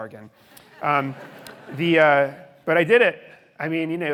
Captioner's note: audience laughing